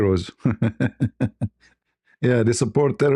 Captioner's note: ketawa